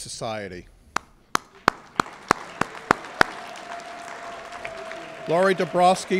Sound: applause

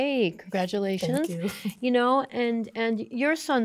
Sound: chuckling

